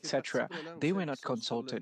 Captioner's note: speaking French